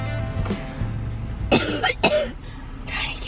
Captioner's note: coughing